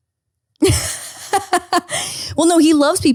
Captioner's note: laughing